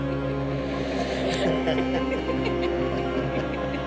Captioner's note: teenager giggling